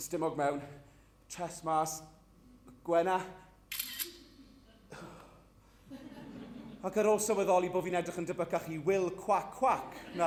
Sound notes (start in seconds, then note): 3.7 camera clicks